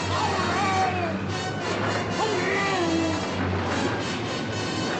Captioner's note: Nemo shouting